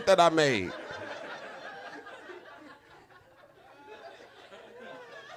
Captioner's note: audience laughing